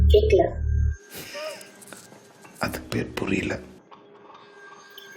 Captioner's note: laughs